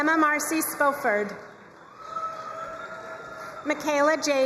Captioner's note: crowd cheering and applauding